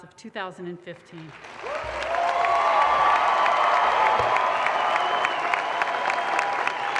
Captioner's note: audience applause and cheers